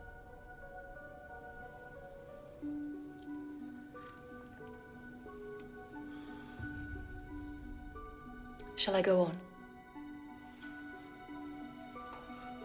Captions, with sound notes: (unsettling music playing) (sips tea) - Shall I go on?